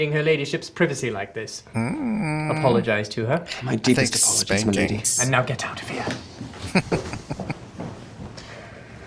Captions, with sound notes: Hmmm. I think spankings. [Chuckling]